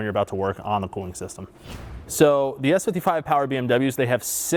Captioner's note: air whooshes